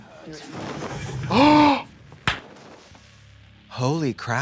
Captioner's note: Trixie gasps